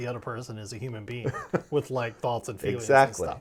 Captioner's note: laughing